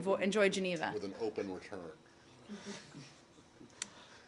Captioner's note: laughter